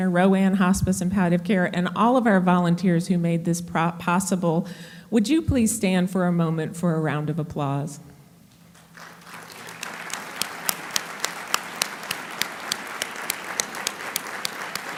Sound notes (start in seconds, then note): 8.7 applauding